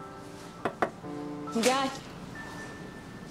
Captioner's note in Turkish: Kapı vuruluyor